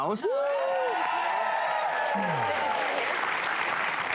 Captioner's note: cheering